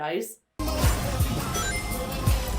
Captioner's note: ring jingles